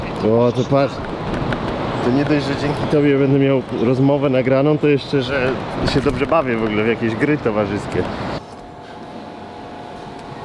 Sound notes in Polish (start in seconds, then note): none